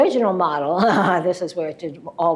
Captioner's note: laughs